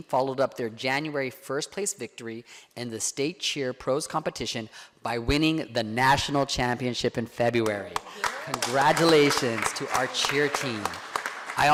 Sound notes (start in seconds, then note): 7.9 board members clapping